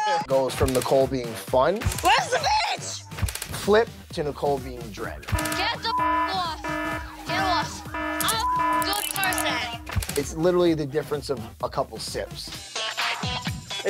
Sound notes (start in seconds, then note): 5.2 beep; 5.2 alarm buzzes